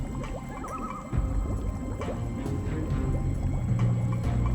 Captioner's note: bubbling